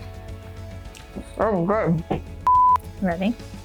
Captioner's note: mouth full